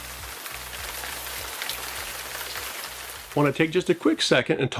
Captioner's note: rain drips